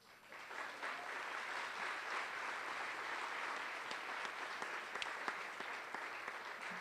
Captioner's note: applause